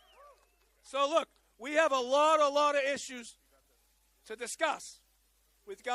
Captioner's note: applause